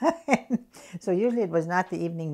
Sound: laughs

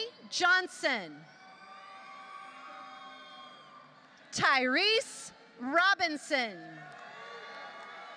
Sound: applause

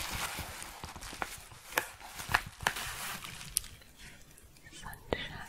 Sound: a few crinkles

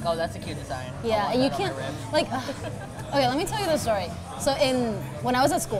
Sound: sighs

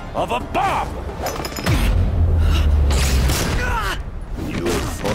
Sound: wincing

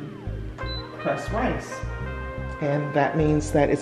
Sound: beep

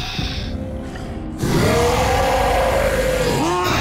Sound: roaring

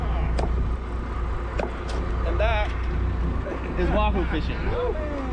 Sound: thunk, thunk, thunk

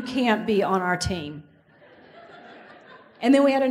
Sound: audience laughs

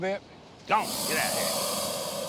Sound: hissing

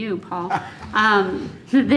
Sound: laughter

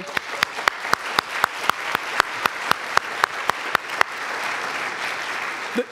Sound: applause

